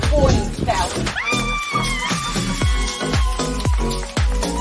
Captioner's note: applause